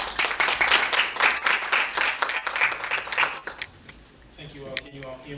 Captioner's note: audience applauding